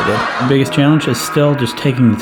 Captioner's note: gong echoes; audience laughs boisterously